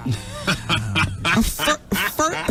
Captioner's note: laughing